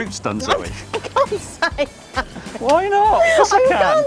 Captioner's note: laughs